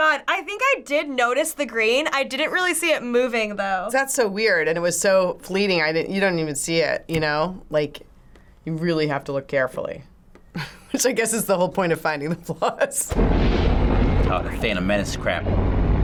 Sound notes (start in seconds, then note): 8.0 snaps; 10.6 chuckles